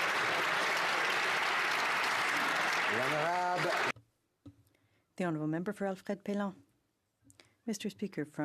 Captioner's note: some Applause